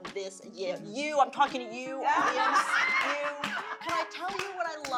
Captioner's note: laughter